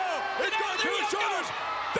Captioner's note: Jerry mumbling